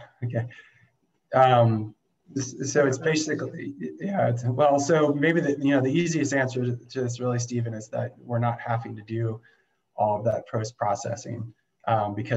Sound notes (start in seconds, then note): none